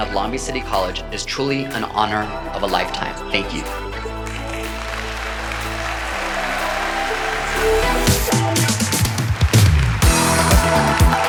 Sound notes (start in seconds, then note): 4.1 audience applauding; 8.5 upbeat music